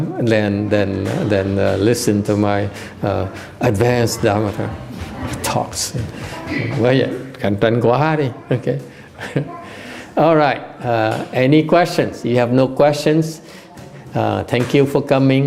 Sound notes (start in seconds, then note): 9.0 laughter